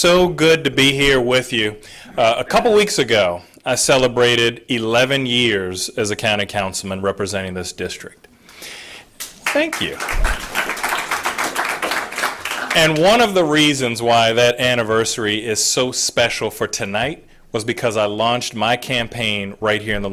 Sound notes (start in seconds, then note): 9.2 applause